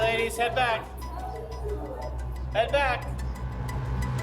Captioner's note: inmates chatting